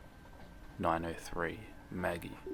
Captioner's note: Facebook message sound